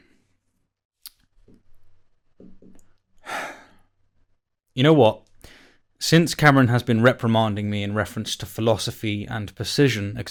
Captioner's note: sigh